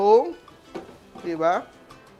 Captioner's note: sizzles